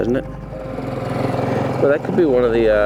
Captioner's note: boat motor hums